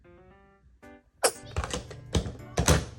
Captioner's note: achoo